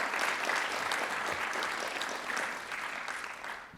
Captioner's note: applause